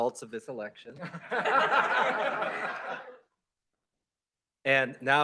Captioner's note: laughter